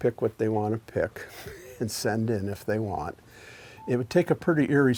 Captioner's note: chuckles